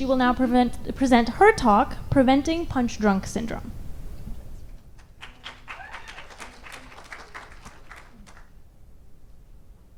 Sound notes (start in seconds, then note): 5.1 audience applauds